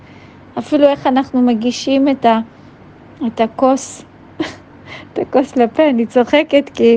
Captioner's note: laughing